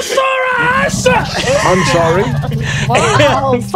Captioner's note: brachiosaurus growling